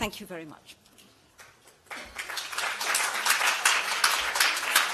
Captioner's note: applause